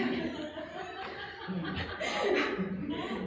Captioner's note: laughs